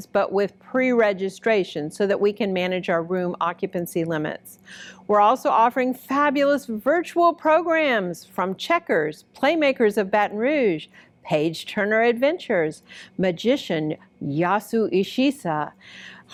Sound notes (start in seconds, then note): none